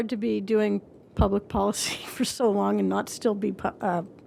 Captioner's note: laughter